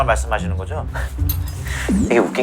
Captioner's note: laughs